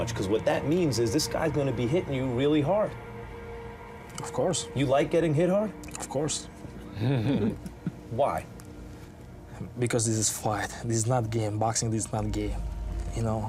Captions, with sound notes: 'Cause what that means is this guy's gonna be hitting you really hard. - Of course. - You like getting hit hard? - Of course. - ( men laugh ) Why? Because this is fight. This is not game. Boxing is not game, you know?